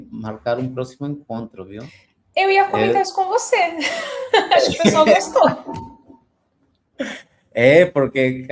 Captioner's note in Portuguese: risadas